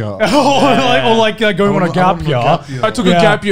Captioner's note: laughing